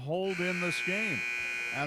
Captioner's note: buzzer sounding